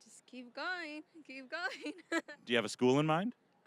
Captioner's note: laughing